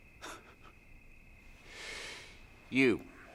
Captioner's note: Aviner laughing